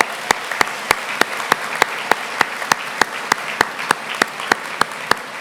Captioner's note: applause